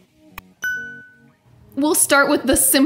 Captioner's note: bell dinging